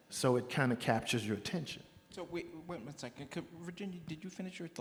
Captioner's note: none